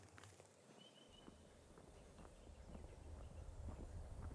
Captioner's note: birds chirping